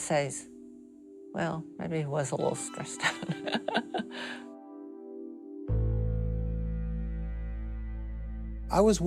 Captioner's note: laughs